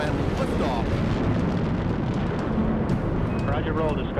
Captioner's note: engine roaring